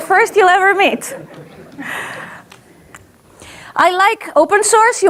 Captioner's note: audience laughs